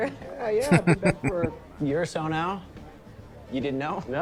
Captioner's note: laughing